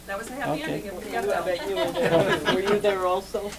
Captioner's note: laughter